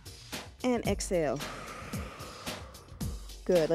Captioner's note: breath hisses